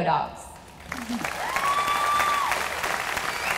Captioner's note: applause